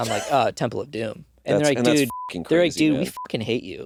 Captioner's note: beeping; beeping